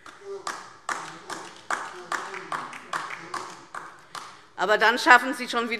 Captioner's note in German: Beifall DIE LINKE